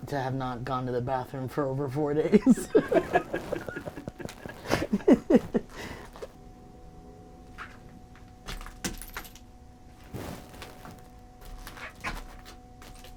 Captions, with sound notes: to have not gone to the bathroom for over four days. (people laughing) (debris crackling)